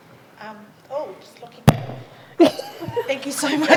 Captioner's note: interruption in mic